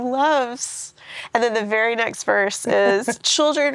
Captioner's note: laughs